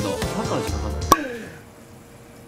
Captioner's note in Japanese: 失笑